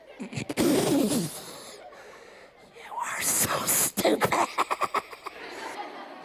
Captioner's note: laughs